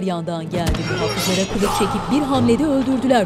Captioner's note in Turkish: Kılıç çekme sesi